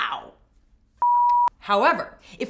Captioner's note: beep